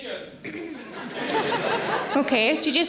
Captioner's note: audience laughing